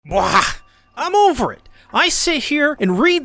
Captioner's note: bwaagghhh